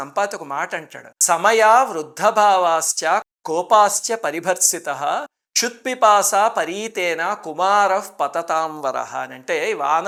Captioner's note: reciting a verse